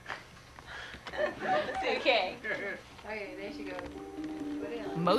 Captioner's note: indistinct chatter